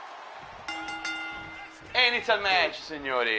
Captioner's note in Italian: campana